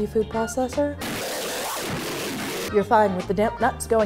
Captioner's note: electronic distortion